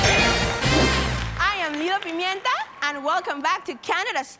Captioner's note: cheering & applauding